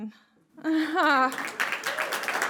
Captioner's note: laughs; applause